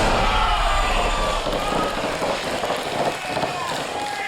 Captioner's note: cheering